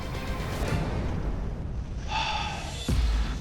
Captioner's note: sighs